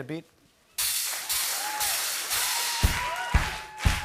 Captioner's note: rhythmic clapping